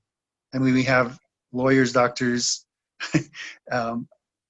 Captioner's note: chuckles